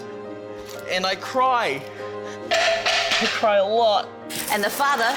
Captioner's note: cutting board clatters